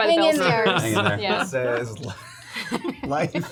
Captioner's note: laughter